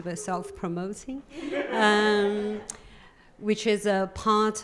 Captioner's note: audience laughing